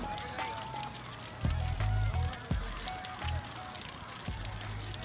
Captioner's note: flames crackling